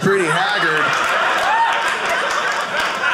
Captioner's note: audience laughing